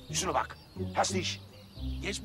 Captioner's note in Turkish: Almanca konuşma